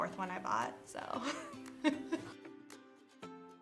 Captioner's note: laughs